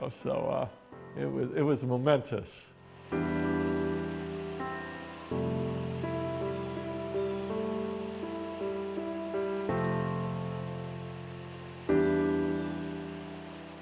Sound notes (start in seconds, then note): 2.8 water hissing; 3.3 melancholy, piano music